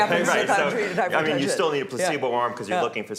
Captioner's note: laughing